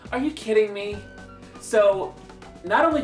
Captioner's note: none